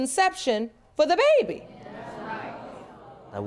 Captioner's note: audience murmuring in agreement